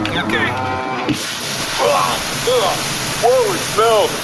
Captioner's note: whirring oil cannon shoots all over